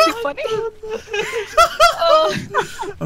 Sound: laughter

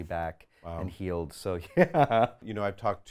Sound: laughs

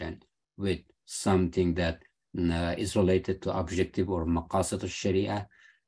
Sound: speaking arabic

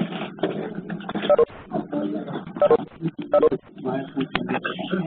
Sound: general murmuring

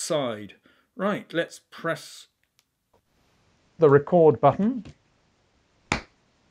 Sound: clap

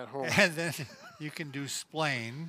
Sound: laughing

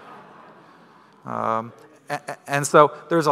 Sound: crowd laughing

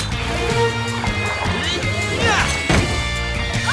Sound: grunting

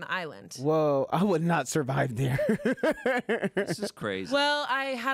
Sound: laughs

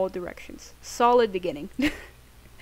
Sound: laughs

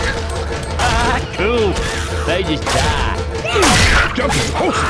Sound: laughs

